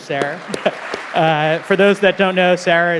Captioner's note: audience applauding